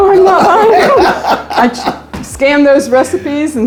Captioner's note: all laughing